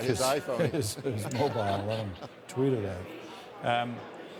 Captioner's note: laughter